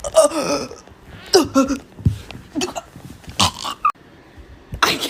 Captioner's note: dying/choking sounds